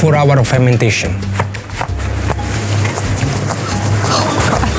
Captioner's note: pizza dough slaps